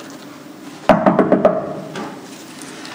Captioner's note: knock on door